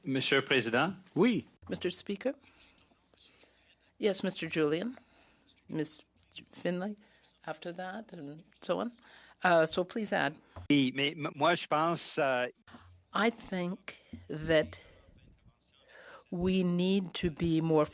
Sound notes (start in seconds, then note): 6.1 speaking French